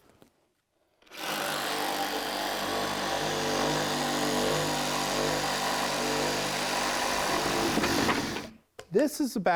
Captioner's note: saw whirring